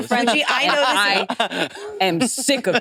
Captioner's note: participants chattering